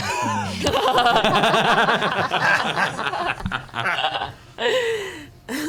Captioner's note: laughter